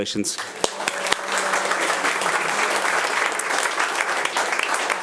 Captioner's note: attendees applauding